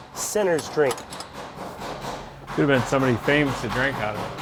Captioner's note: tools clanking